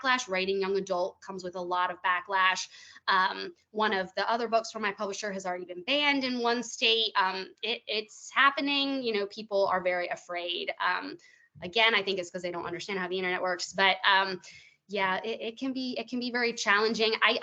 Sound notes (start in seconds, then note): none